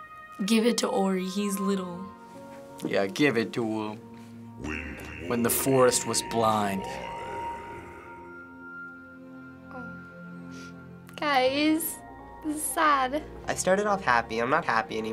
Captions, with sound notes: Give it to Ori. He's little. - Yeah, give it to him. (in game: speaking foreign language) - "When the forest was blind." - Oh... (sniffles) Guys! This is sad. - I started off happy. I'm not happy anymore.